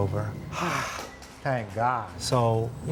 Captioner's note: sighs